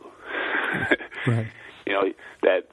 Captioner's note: laughs